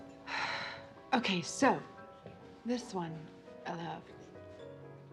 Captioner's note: sighs